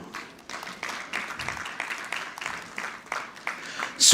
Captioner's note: audience clapping